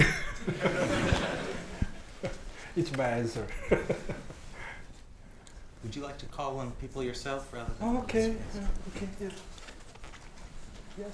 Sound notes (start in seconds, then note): 0.3 Mayor Oh and audience laughing; 3.5 laughs